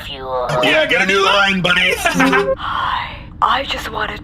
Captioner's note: voicemail plays